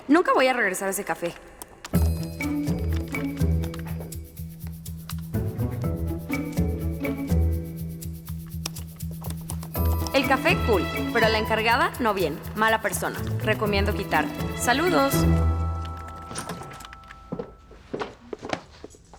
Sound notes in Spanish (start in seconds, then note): 15.8 puerta se abre